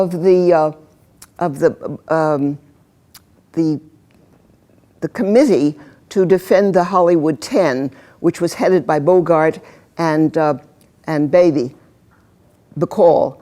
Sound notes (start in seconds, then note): 3.3 stuttering